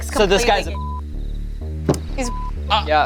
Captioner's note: beep